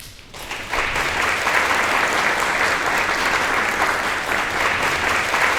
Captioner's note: applause